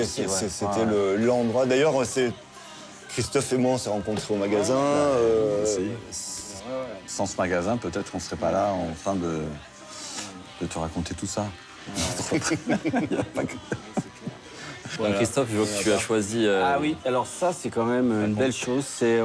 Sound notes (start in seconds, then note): 12.0 laughter